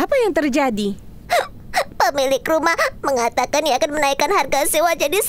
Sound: sniffling noises

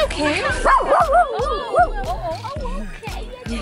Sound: dog barking

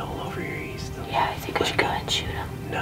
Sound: whispering

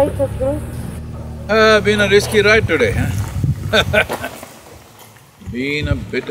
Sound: laughs

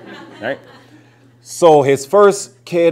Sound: laughter

